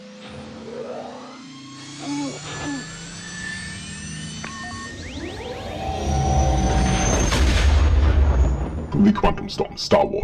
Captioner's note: Millennium Falcon engine sounds